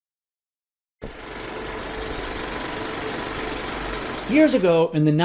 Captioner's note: sound of a reel to reel